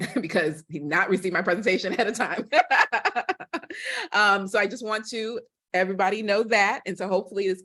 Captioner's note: laughter